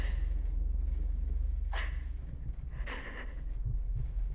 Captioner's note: Catherine crying